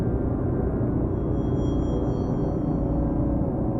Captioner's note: none